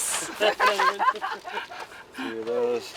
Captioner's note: laughing loudly